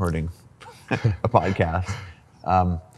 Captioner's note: laughs